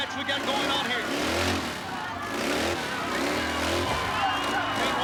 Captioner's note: engine revving